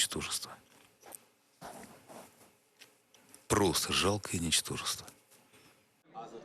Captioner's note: speaking Alternate Language